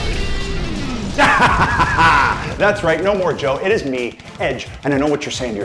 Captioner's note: evil laugh